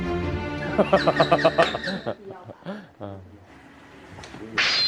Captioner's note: laughing in disbelief